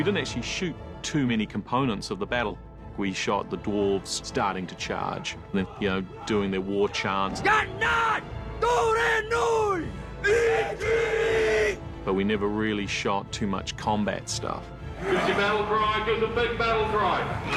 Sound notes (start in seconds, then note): 7.3 shouting in dwarvish; 10.1 all shout in dwarvish